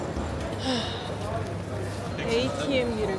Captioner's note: deep sigh